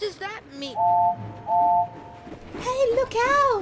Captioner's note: molly whistles